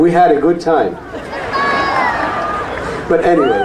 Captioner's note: audience laughs